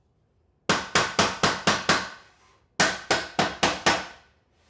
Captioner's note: hammer pounding